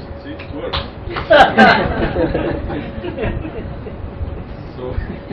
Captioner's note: Gülüyorlar; Gülüyor